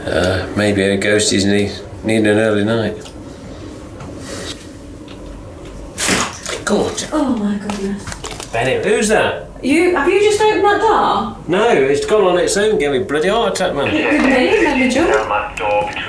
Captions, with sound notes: Ah.. maybe the old ghosties need an early night! [Door opens] Gordon Bennett! Oh my goodness! Who's that?! You? Have you just opened that door?! No! It's gone on it's own! Gave me bloody heart attack man! It did me, made me jump!